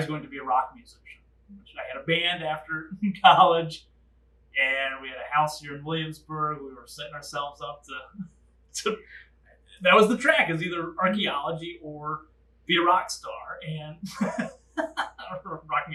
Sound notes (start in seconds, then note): 13.2 laugh